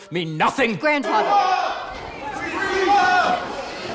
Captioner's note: indistinct shouting